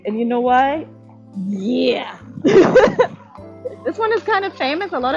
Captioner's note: laugh